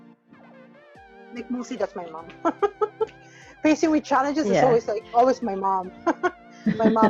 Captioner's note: laughs